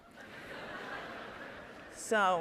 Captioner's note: audience laughing